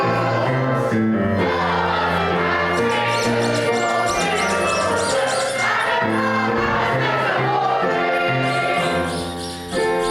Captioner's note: rubber duck squeaking